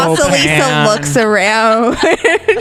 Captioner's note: laughs